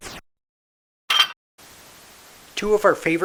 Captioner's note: metallic clank